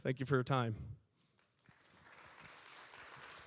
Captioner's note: applause